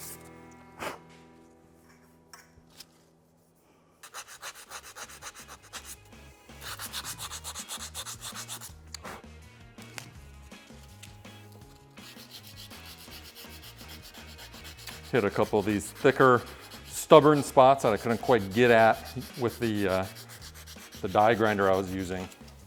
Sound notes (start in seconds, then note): 3.8 sanding noise